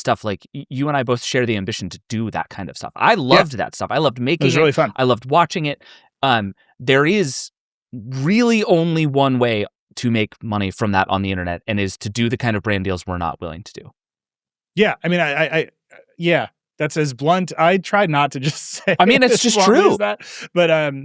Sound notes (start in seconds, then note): 18.2 laughs